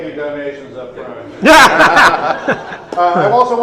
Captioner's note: audience Laughs